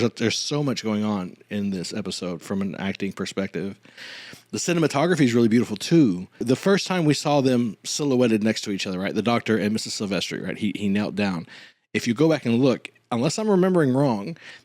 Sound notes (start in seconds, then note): none